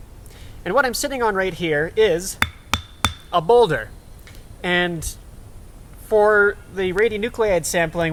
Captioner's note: clank clank clank